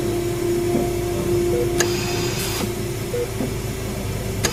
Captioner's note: machines beeping